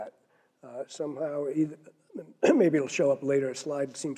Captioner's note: cough